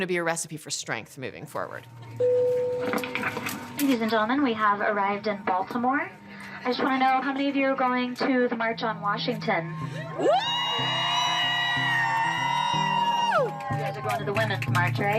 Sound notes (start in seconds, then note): 9.6 cheering